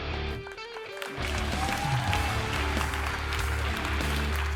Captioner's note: audience cheering